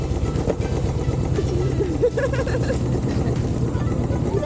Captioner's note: laughing